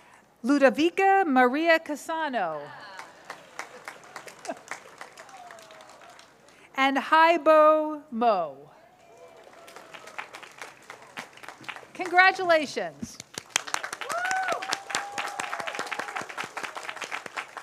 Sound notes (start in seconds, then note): 2.7 cheers, applause; 8.8 cheers, applause; 13.3 cheers, applause